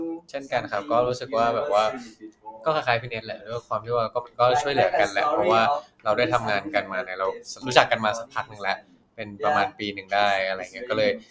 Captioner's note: answering in Thai